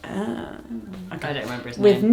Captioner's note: groans